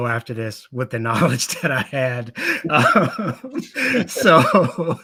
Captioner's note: laughing